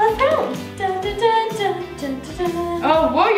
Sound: humming

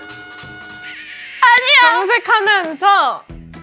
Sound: frustrated

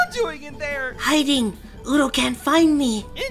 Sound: whispering

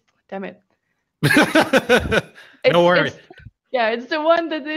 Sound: laughs

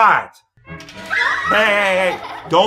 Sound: kids screaming

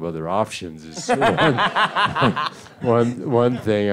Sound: Edgar laughs

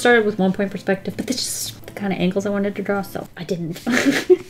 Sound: laughs

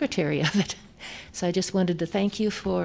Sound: laughter

